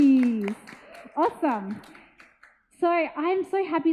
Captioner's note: audience applauds